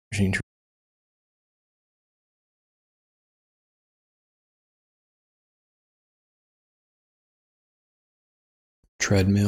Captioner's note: silence